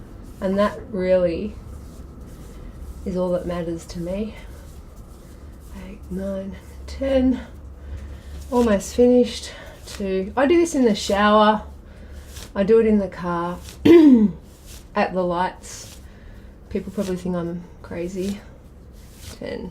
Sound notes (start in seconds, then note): 13.8 clears throat